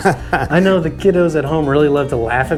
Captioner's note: laughs